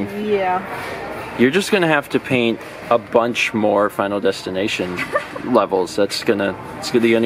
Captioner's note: laughs